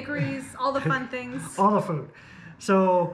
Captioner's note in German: lacht